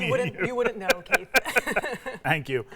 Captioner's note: laugh